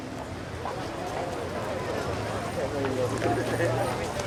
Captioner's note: people chattering